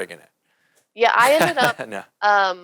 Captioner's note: laughing